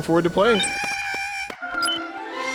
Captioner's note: Porg sounds